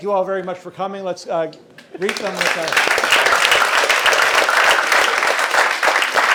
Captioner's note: audience applauding